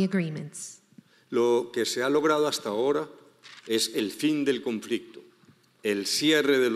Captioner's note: speaking in foreign language